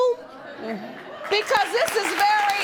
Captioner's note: audience applauding